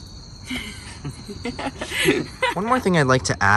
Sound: laughs

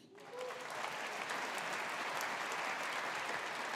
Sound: audience applauding

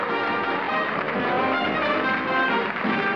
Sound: applause

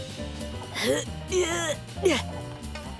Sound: grunting

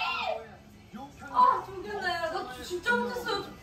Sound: crying

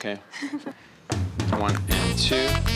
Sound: laughs

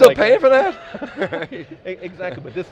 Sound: laughter

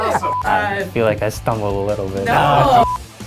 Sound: beep

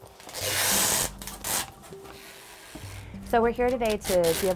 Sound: tape crunching

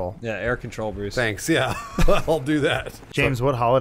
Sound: chuckle

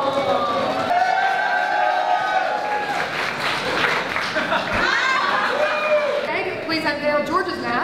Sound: cheers

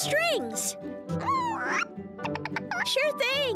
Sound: clucking

